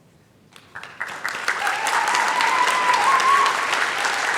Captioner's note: applause